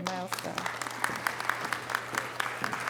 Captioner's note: audience applause